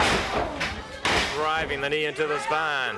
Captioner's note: body thudding